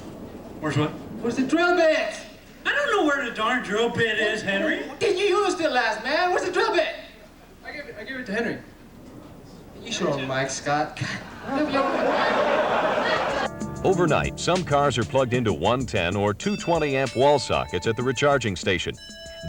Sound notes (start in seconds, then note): 11.0 crowd laughing; 13.4 serious music